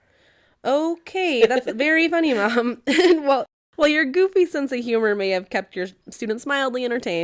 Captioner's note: laugh